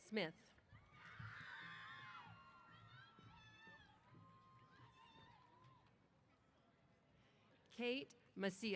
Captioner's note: cheers